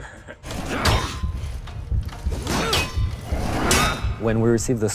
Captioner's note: clanging